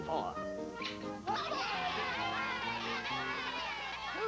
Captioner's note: smurfs cheering